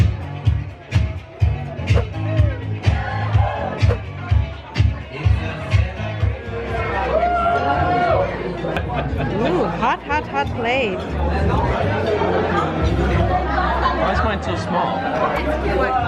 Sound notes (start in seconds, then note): 11.9 crowd talking